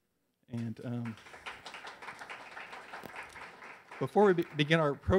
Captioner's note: audience cheers